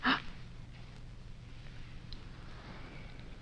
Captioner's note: Diana gasps